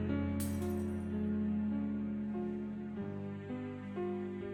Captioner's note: glass shattering